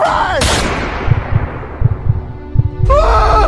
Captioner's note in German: Schießerei